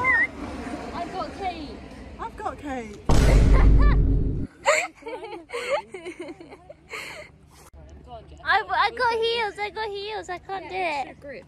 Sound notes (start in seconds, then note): 4.5 laughter